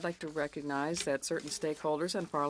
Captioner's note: speaking in French